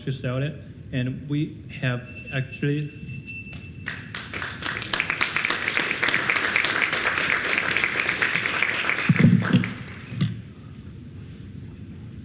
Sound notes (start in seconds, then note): 1.8 bell dinging; 3.8 applause